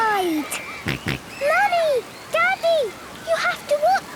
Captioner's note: George snorts